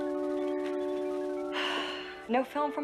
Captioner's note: sighs